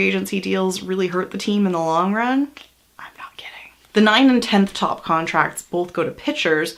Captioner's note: whispers